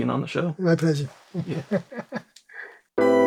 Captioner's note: laughs